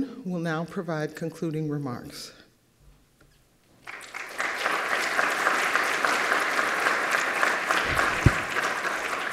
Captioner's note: applause